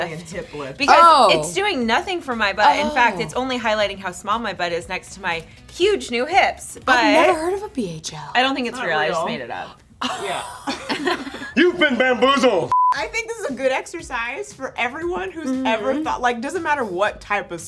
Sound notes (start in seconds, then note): 10.6 girls laugh; 12.7 high pitched beep